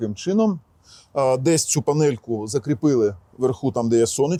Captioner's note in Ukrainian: сопіння